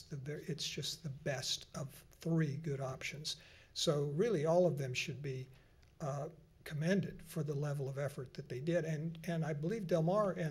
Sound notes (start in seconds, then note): none